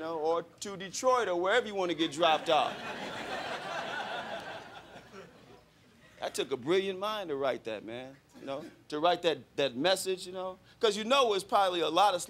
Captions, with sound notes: or to Detroit or wherever you want to get dropped off. [crowd laughing] That took a brilliant mind to write that, man, you know to write that message, you know? Cause you know, there was probably a lot